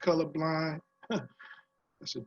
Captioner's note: laugh